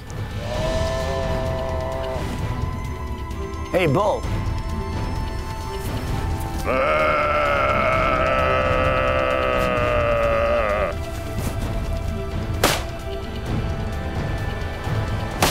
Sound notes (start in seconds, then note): 6.6 mimics buffalo moaning; 12.6 gunshot rings